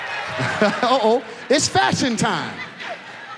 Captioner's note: audience applauds; laughs